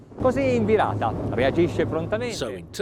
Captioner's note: speaking foreign language